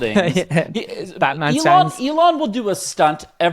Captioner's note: laughs